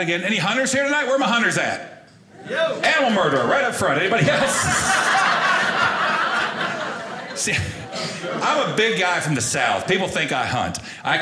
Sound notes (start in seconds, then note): 4.0 audience laughing